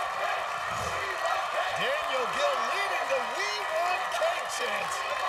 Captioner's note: crowd chanting "we want cake"